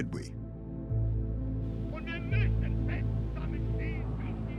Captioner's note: speaking in German